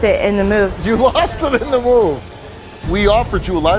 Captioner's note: laughs